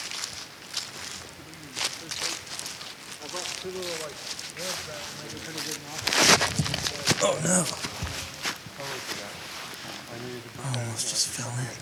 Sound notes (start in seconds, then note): 0.2 leaves crunch; 5.8 faint scuffle